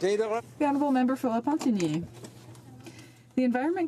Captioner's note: speaking French